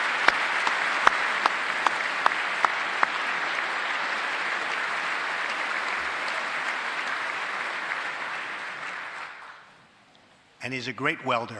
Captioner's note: applause